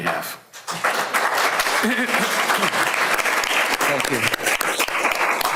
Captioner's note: audience applause